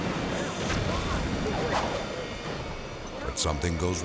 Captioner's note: debris whirring; explosions booming